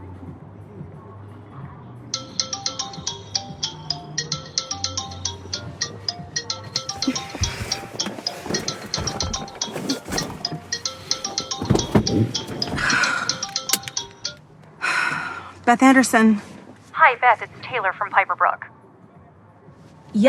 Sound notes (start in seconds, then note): 2.1 phone ringtone